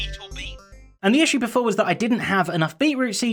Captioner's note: normal voice